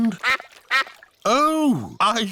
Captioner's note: quacking